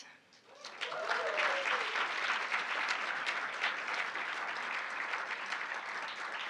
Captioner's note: audience cheering and applauding